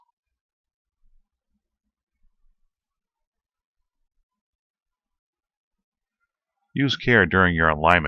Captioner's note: silence